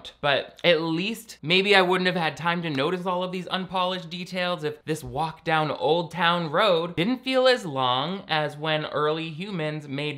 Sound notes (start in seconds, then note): none